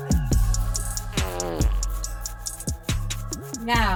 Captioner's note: Harriet farts